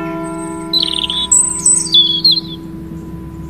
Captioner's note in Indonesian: kicau burung